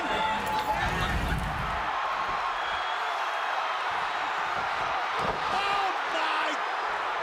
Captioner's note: crowd cheering